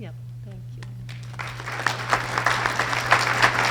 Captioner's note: audience applause